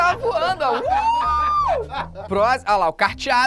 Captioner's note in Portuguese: risadas